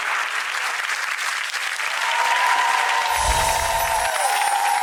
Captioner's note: audience applause